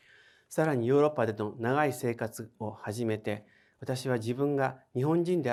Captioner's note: speaking in foreign language